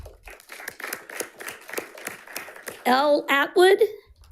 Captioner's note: audience applauding